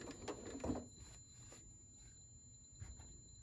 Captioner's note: sewing